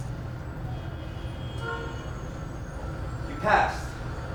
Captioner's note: traffic sounds